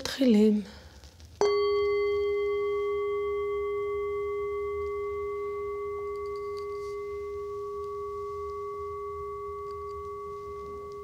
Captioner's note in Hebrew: נוקשת על הקערה הטיבטית